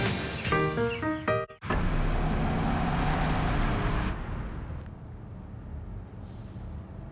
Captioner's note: SFX: Engine sound